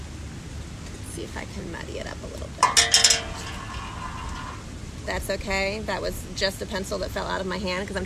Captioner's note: something falls